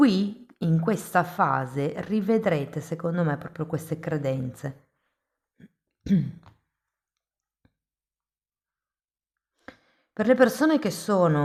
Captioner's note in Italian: schiarire la voce